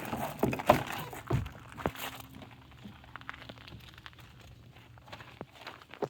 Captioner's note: footsteps crunching; door creaking